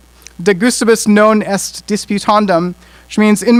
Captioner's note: speaking in foreign language